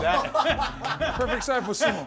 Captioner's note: laughter